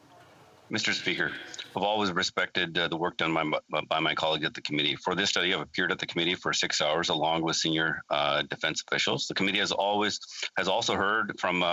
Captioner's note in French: voix de l'interprète